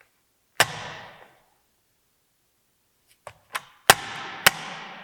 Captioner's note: phone thuds; phone thudding